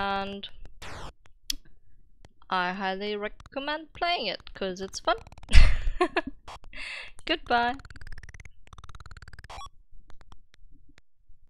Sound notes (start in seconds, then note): 5.5 laughter